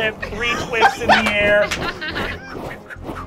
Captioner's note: whooshing